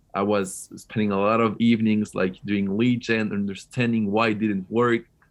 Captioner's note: none